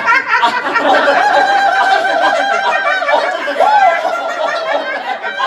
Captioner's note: everyone but Marty has weird laughs